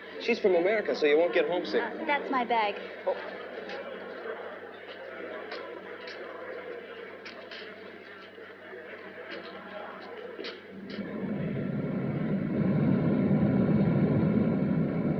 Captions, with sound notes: - She's from America, so you won't get homesick. - Oh, that's my bag. [ AIRPORT AMBIENT ] [ SOUND OF RUNNING ENGINE ]